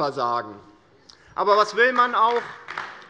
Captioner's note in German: Beifall DIE LINKE